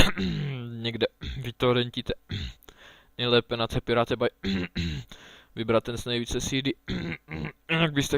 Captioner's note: cough; cough cough